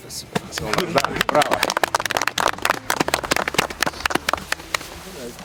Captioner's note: applause